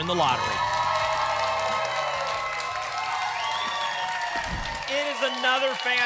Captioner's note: applause and cheering